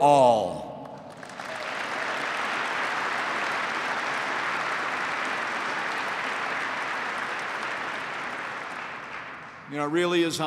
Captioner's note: applause